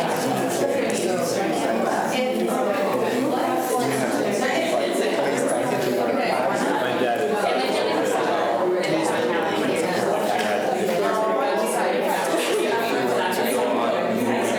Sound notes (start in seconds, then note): 1.6 students chatter